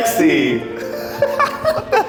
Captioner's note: laughing